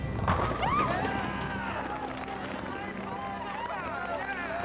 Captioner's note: crowd cheers